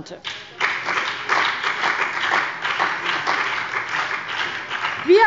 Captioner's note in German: Beifall bei dem BÜNDNIS 90/DIE GRÜNEN und der CDU